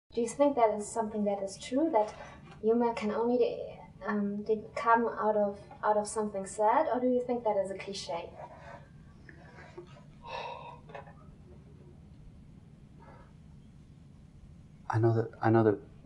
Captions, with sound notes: Do you think that is something that is true? That, Humour can only, um, come out of, out of something sad? Or do you think that is a cliche? (Mouth Noise.) I know that,